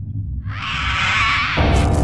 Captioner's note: bird Screech